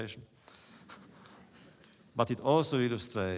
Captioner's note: laughter